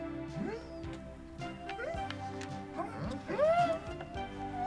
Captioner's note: group hums and squeaks